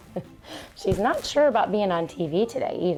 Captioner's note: laughs